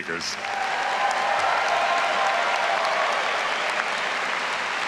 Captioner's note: all applauding and cheering